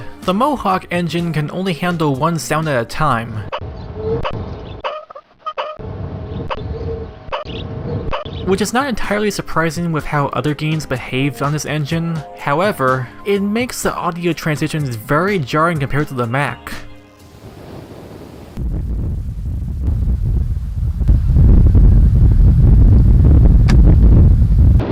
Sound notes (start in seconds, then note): 3.5 wind sound constantly interrupted by wheel sound; 18.5 smooth fade in from shore to fire sound; 20.1 fire sound volume slowly rises on approach